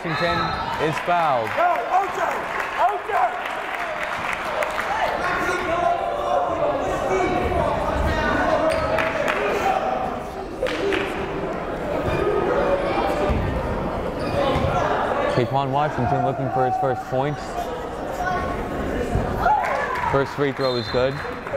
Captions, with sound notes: Taequann Washington, it's fouled. (clapping) (yelling) Taequann Washington look for his first points. First free throw is good.